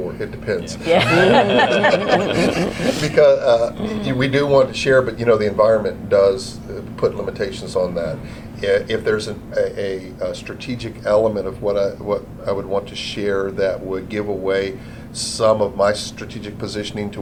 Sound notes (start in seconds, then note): 3.7 laughter